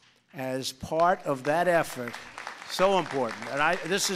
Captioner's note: applause